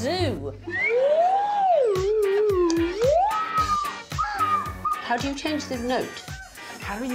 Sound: upbeat music; swanee whistle warbling

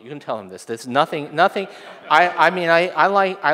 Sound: audience laughing

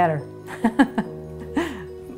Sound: laughter

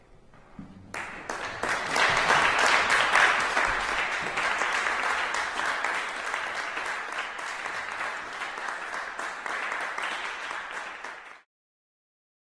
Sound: clapping

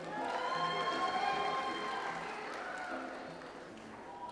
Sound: audience applauds

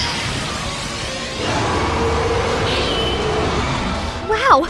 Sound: roars

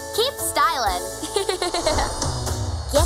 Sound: giggling

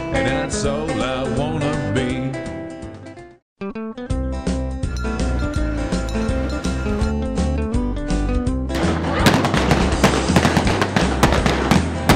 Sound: sounds of gun fire

